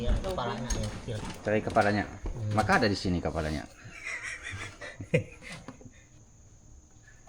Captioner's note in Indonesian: tertawa